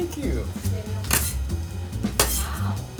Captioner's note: bench scraper scraping